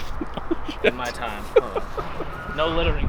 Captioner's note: laughs; cameraman laughing